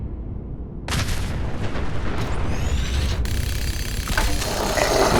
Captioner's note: echoing sounds of explosions and gunfire